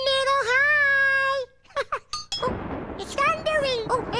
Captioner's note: thunder